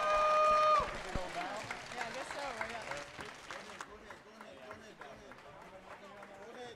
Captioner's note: audience applauding; performers chattering